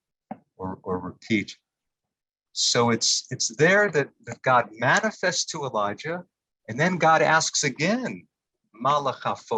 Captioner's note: Hebrew